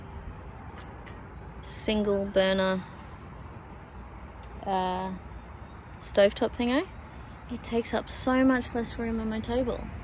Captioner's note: two light taps on metal